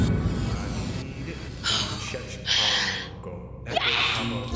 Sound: Zoe exhales

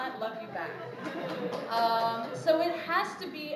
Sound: applause

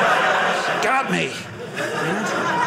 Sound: audience laughing

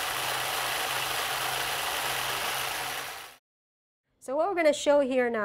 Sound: electric truck runs

